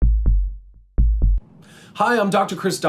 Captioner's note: heartbeats